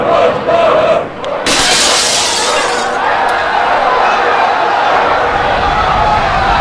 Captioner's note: brick smashes window. crowd cheers; people screaming and panicking